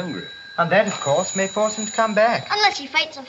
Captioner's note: phone rings